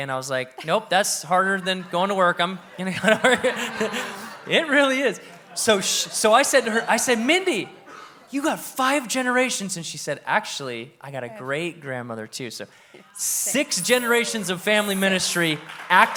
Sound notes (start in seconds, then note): 2.9 audience laughs